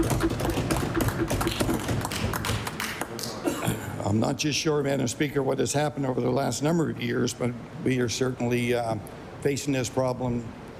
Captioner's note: applause